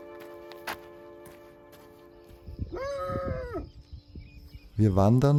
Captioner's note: dogs barking